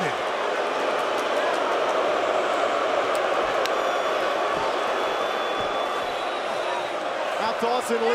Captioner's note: crowd cheering